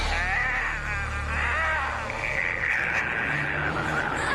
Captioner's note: growling